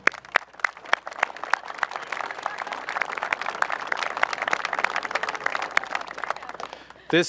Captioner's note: applause